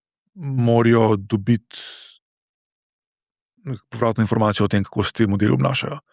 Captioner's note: gasp